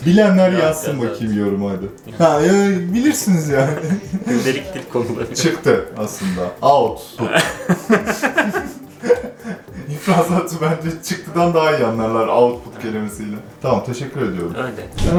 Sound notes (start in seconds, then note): 7.1 laughter